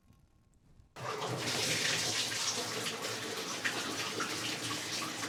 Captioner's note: water splashing